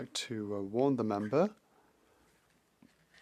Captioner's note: speaking French